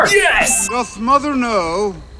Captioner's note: bell dings